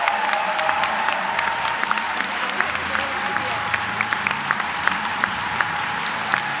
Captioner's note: applause